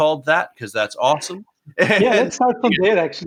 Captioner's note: laughs